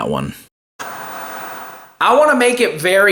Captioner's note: TV static